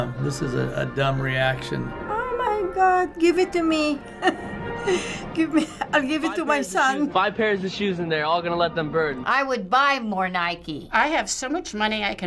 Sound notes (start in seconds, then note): 4.0 chuckles